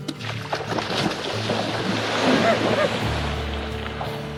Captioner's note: gentle guitar music; water splashing